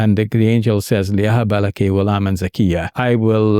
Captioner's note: speaking in foreign language